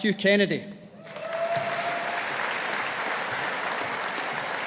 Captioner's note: audience applauding